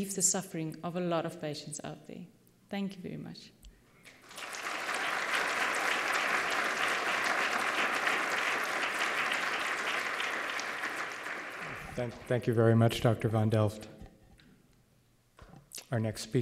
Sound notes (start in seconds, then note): 4.0 applause